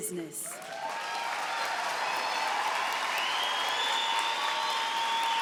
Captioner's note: cheering and applause